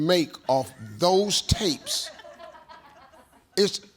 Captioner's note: audience laughing